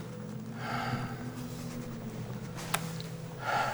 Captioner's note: sighing